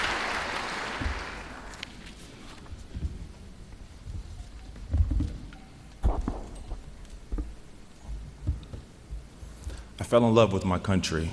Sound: applause

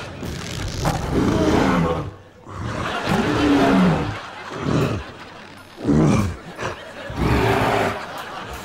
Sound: grunting

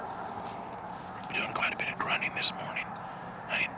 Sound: whispering

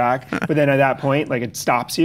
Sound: Chase laughs

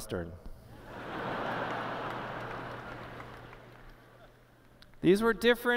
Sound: laughter

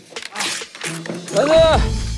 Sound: the manual rips

